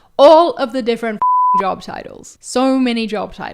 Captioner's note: beeps